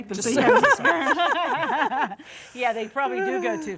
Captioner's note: all laughing